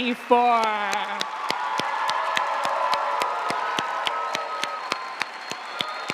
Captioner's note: audience cheering and applauding